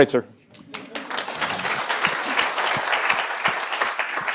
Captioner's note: applause